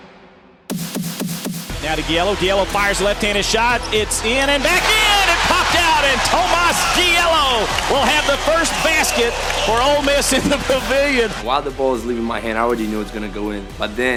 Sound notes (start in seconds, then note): 2.0 voiceover